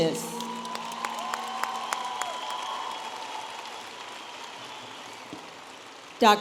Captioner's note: audience applauding and cheering